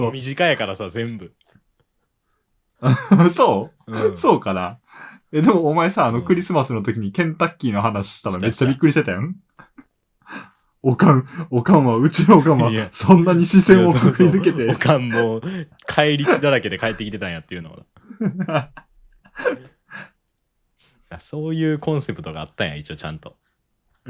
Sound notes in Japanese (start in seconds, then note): 2.8 笑い; 10.7 咳払い; 18.0 笑い